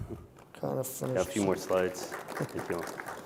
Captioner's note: applause